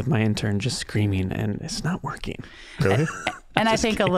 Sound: laughing

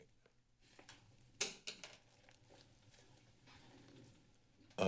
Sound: rustling sound

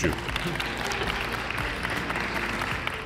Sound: applause

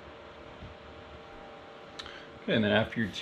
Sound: fan whirring sound

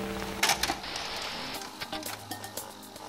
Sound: television static; VCR player gears rattle

